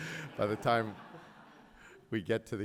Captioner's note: audience laughs